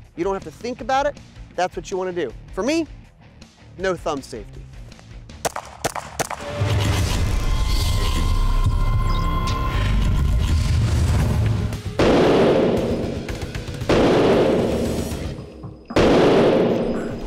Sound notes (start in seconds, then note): 5.4 gunshots; 8.3 action music; 11.9 gunshots